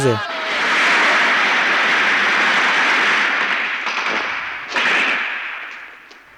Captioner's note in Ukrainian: стрільба